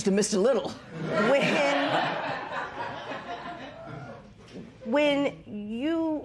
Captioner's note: laughter